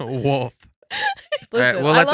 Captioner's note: laughing